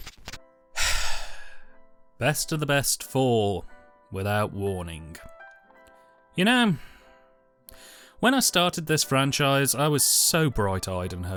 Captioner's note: sigh